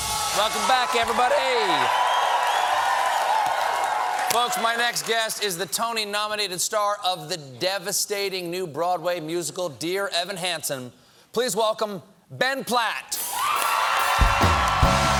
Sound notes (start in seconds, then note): 3.8 cheers and applause